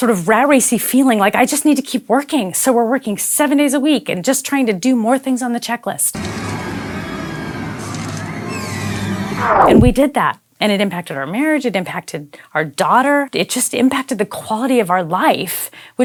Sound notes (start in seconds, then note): 6.2 scary horror sounds